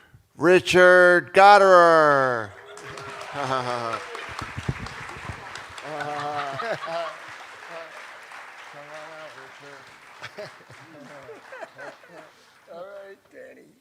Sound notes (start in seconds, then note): 2.8 laughter